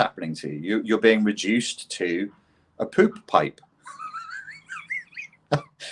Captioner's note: laughs